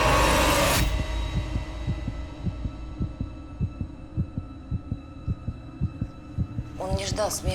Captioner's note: heart beating